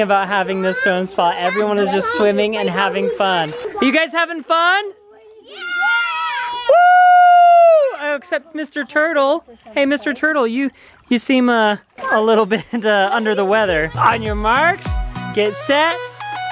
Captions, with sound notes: about having the swim spa. Everyone is just swimming and having fun. You guys having fun? (shouting affirmatives) (cheering) Except Mr. Turtle. Hey, Mr. Turtle, you seem a little bit under the weather. On your marks, get set, go!